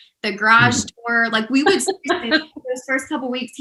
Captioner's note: laughter